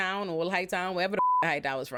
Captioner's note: beep